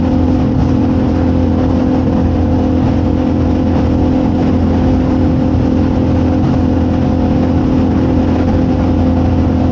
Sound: boat engine

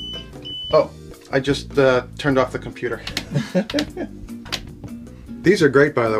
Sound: rapid beeping; laughs

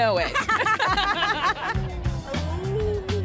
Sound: both laugh

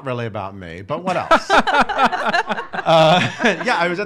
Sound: laughing

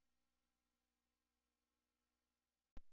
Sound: silence

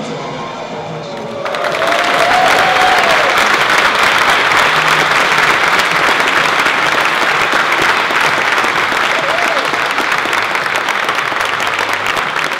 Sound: clapping

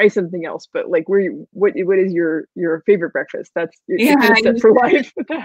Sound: murmurs

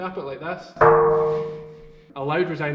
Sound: bronze clangs

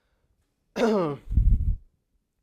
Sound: cough

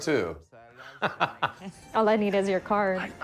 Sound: laughing

